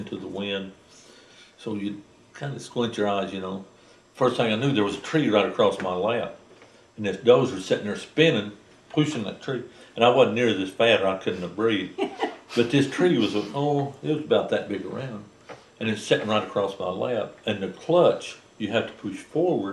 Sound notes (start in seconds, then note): 11.9 laughter